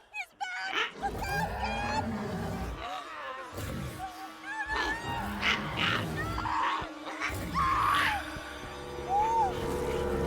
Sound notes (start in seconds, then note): 2.0 Dweller roars; 4.8 Giree grumbling; 7.6 Lock screams